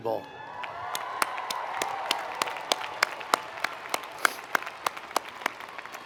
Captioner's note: audience cheering and applauding